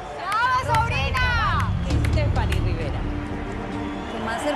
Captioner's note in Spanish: Ovación